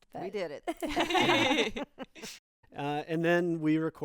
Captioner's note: group laughing